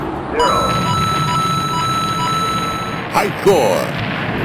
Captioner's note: coins dinging